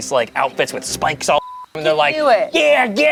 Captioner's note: beep